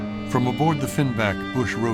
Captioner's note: none